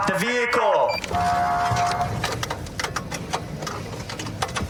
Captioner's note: horn blaring